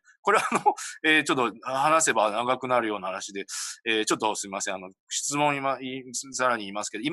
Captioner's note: laughs